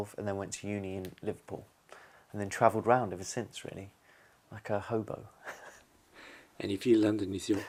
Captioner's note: laughs